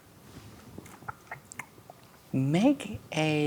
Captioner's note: clicks tongue